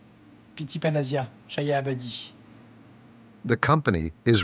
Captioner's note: speaking in foreign language